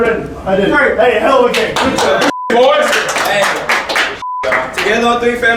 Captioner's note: clapping